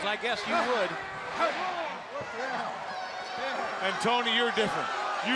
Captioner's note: crowd chatter